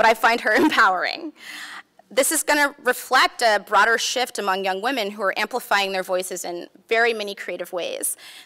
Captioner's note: laughs